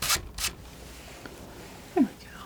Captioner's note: scratching